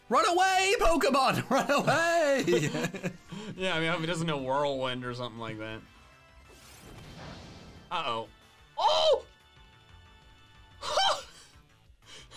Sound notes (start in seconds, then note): 1.4 laughter; 8.8 shouts; 11.3 laughs